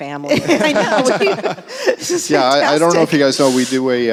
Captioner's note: laughs